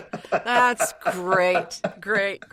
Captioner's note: laughs